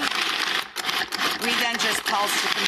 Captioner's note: grinding